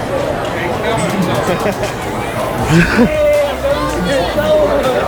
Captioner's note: laughing